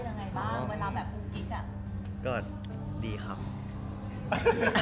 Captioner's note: saying in a polite manner; laugh in his sweet manner